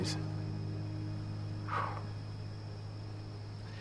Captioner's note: exhales